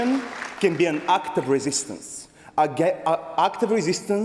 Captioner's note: cheering